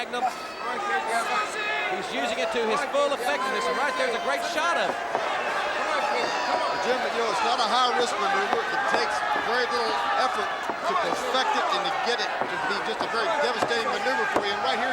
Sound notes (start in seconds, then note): 2.2 crowd chatter